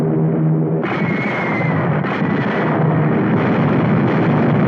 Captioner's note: guns firing